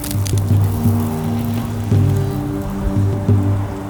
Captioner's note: falling sand